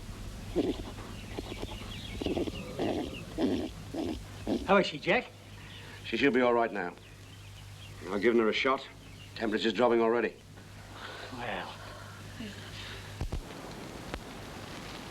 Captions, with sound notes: - How is she, Jack? - She should be alright, now. I've given her a shot. Temperatures dropping already. (relieved sighs) - Well.